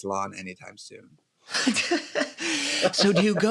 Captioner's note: laughter